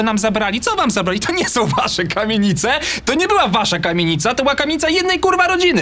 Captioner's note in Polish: śmiech